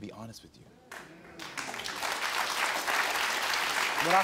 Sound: audience applauds

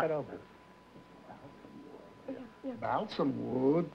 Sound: whispering

